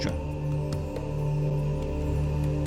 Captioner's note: men chanting